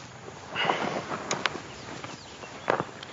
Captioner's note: sighs